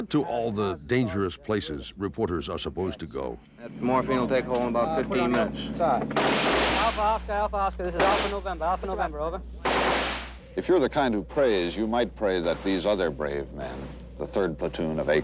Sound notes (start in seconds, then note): 6.1 gunshots; 9.6 gunshot